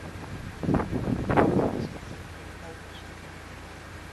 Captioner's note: gust of wind - sound